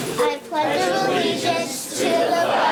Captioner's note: crowd